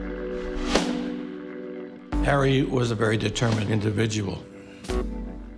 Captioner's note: pound